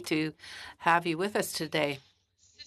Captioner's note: speaking French